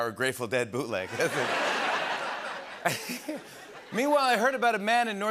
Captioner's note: laughter